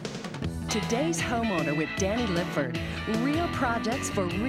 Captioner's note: upbeat music; voiceover